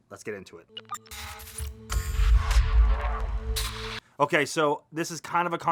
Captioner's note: electronic crackling